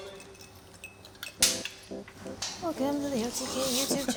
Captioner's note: jar cracks open; clapperboard claps